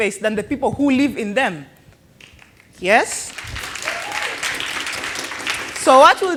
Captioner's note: applause